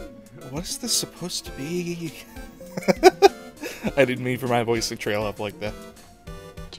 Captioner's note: giggle